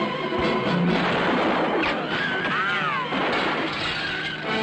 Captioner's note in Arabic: طلق ناري